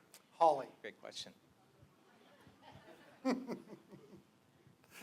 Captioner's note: laughter